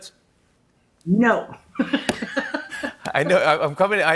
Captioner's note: both laugh